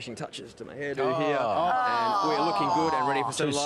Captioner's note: groaning in disgust